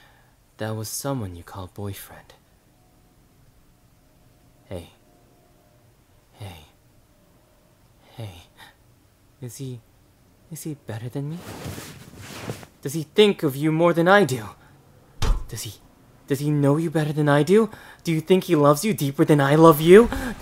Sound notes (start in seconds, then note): 11.2 rustling; 15.2 slam